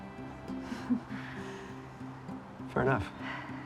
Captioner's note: both chuckling